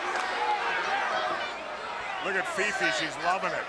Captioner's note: crowd chatter